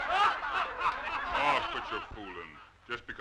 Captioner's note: crowd laughing